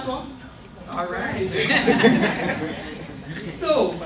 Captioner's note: laughter